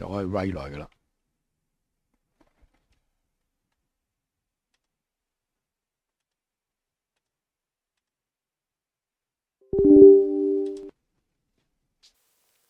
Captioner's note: button sound